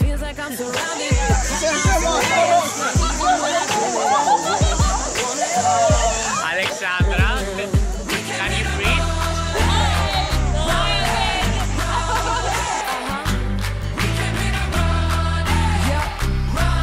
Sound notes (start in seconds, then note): 3.0 cicadas' sound and laughter by the students; 8.9 laughter; 11.5 laughter